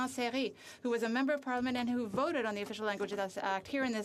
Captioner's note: speaking French